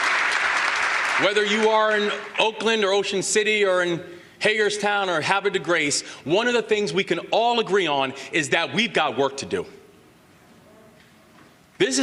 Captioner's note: applause